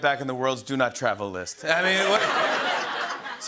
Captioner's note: laughter